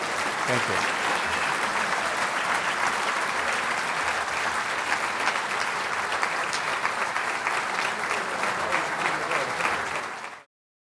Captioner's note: applause